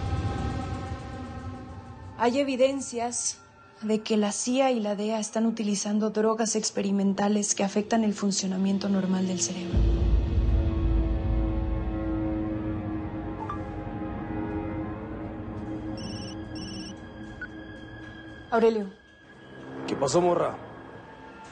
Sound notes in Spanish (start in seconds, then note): 13.0 Bip; 15.9 Suena el celular